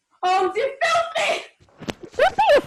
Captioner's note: scuffle sounds